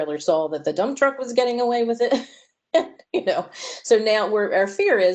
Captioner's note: laughter